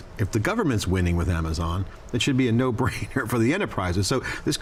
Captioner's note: laughs